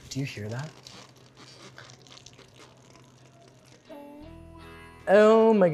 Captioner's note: pie bubbling